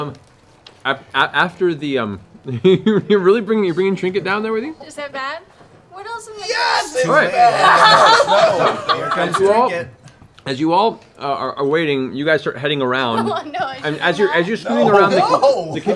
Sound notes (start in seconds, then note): 6.5 yelling; 7.0 laughter